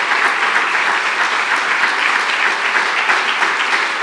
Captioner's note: applause continues